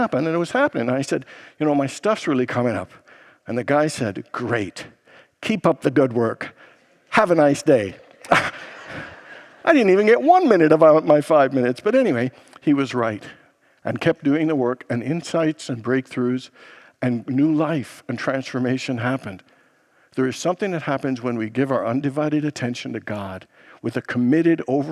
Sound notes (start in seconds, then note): 7.5 congregation laughs